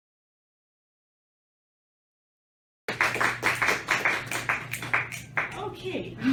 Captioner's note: applause